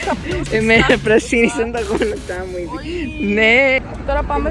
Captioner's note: giggles